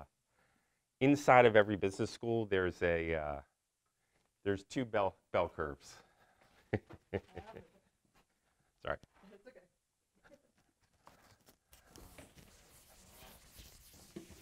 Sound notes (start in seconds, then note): 6.6 laughs